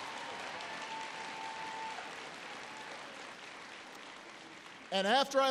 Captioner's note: applause